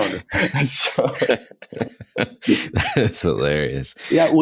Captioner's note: laughing